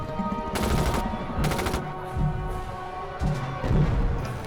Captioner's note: guns firing